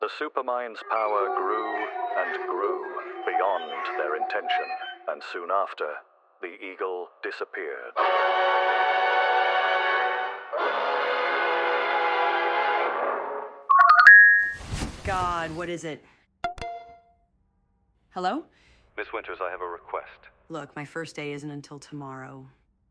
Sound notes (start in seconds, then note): 8.1 dramatic music; 13.7 cellphone ringing